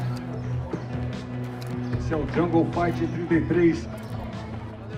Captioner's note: announcer speaking Portuguese